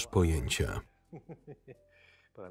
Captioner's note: Michael laughing